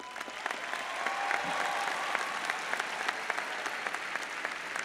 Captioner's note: audience applauds